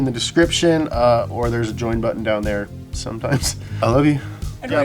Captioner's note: chuckles